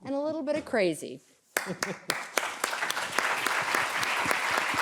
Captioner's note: applause